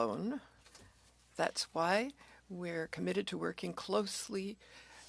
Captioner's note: speaking French